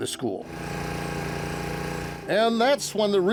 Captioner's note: compressor rumbling